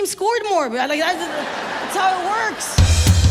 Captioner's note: audience laughs; lively drum music